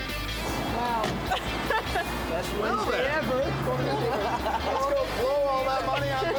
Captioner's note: laughing